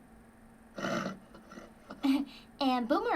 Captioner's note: horse neighing